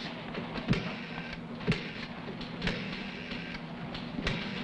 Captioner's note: phone dialing